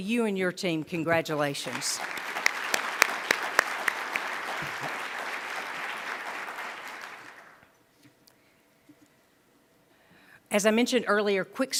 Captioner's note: applause